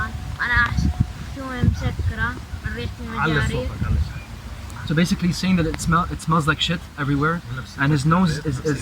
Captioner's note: speaking Arabic